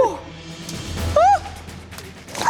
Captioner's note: gasps